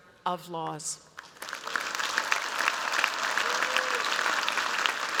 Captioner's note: applause